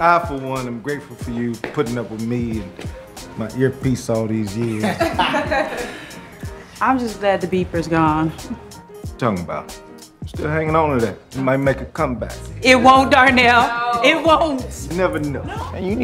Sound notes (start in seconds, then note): 4.6 laughter